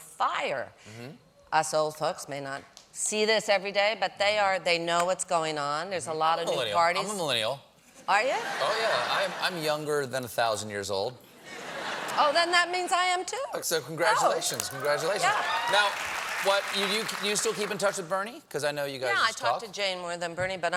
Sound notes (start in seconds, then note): 8.3 laughter